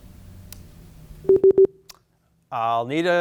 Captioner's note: tone beeping